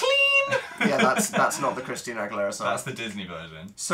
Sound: singing; laughs

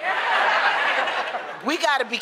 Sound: laughter

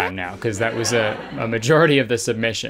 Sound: crowd giggling

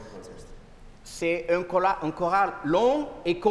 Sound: speaking french

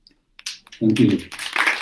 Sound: clapping 55.57

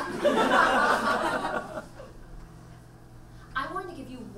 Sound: audience laughs

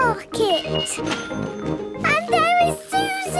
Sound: cash register dinging

